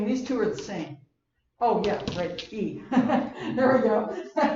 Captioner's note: laugh